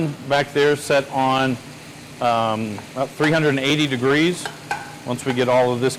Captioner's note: skillet sizzling continues